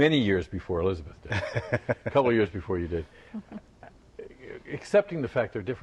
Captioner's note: laughter